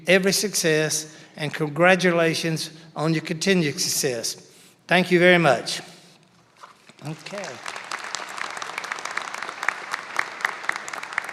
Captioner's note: applause